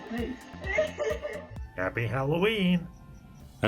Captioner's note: creepy voice